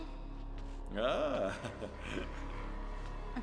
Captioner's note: man laughing